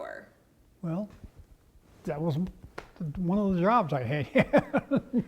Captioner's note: laugh